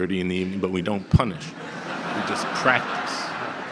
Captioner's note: audience laughter